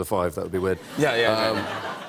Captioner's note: laughter